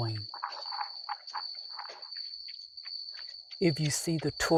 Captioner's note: crickets chirping continues